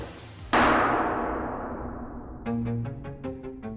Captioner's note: gavel bangs; energetic dramatic music